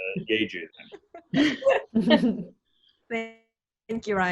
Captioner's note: laughing